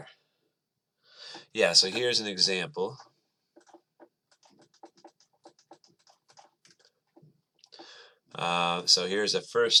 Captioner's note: writing